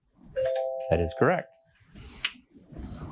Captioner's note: bell dings